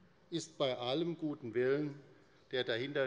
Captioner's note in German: none